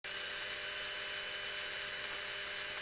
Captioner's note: loud whirring